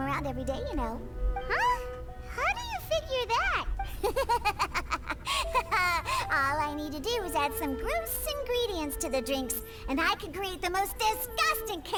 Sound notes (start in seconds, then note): 3.8 laughing